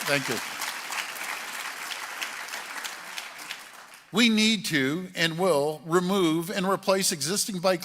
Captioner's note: applause